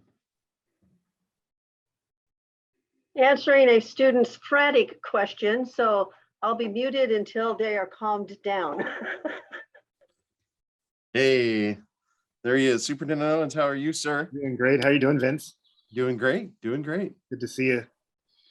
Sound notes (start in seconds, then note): 8.8 laughs